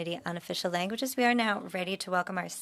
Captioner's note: speaking in French